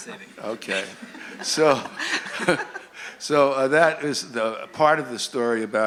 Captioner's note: laughter